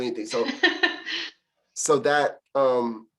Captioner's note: laughter